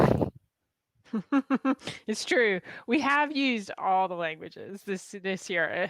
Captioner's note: laughs